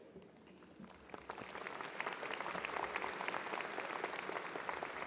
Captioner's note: audience applause